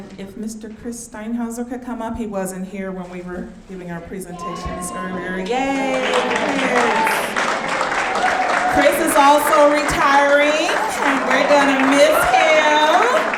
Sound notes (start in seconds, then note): 4.4 audience clapping